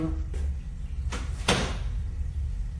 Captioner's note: door slams shut